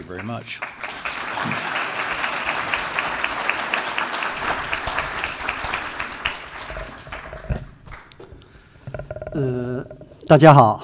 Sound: applause

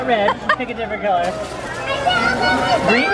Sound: laughs

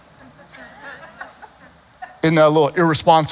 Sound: congregation chuckles

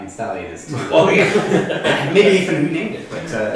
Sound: laughter

